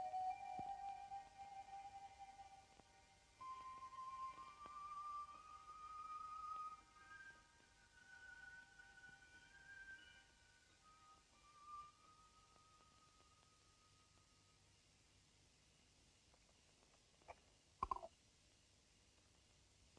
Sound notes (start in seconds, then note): 13.2 crickets chirping